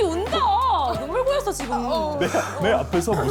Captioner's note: breathing heavily with anger